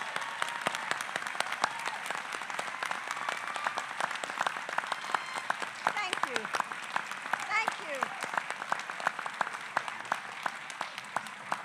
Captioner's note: applause